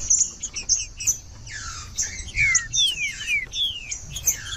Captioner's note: trinca ferro cantando